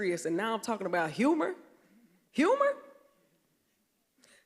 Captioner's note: none